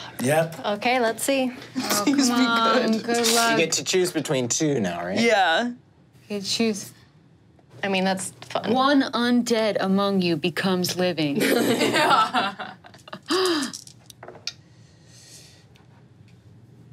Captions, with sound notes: Two. - Fuck. - Yep. - Okay, let's see. - Please be good. - Oh come on, good luck. - You get to choose between two now, right? - Yeah. - You choose... - I mean, that's fun. - One undead among you becomes living. - Yeah. (laughs)